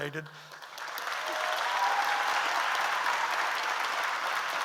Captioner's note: audience applauds